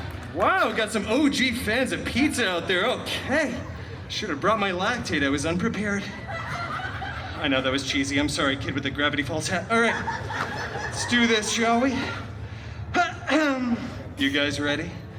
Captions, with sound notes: Wow, we got some OG fans of pizza out there. Okay. I should have brought my lactate. I was unprepared. [guests laughing] I know that was cheesy. I’m sorry, kid, with the Gravity Falls hat. All right. [guests laughing] Let’s do this, shall we? You guys ready?